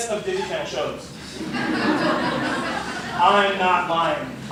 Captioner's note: laughter